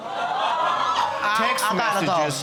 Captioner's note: audience exclaiming